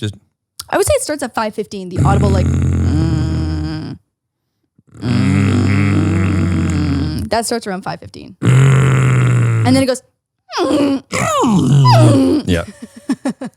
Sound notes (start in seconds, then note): 2.4 both groaning; 8.5 groaning; 10.5 both whining